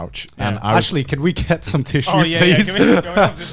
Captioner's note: laughing